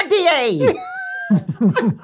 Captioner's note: Rob laughs; Charlie chuckles